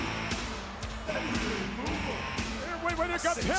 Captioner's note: crowd cheering; upbeat music